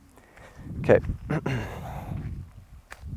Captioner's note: clears throat